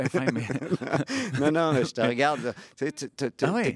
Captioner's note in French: rires